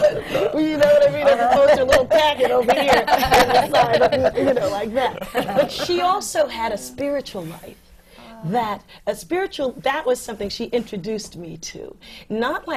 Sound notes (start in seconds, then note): 3.9 laughter